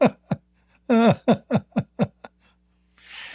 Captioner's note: Ketawa